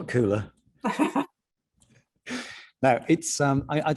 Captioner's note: both laughing